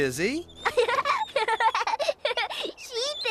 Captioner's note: giggling